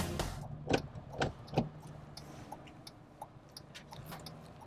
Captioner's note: blinker ticking